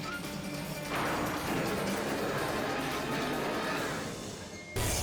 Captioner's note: fast-paced music; engine revs; tense music